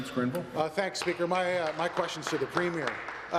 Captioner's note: applause